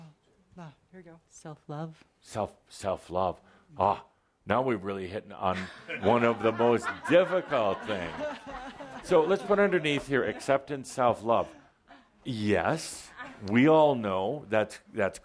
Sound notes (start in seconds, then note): 5.5 laughter